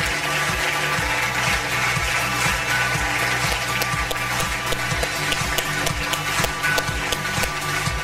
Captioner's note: audience applause; upbeat music